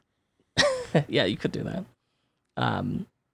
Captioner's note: laughs